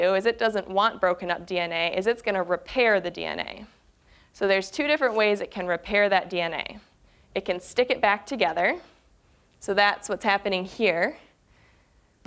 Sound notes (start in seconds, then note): none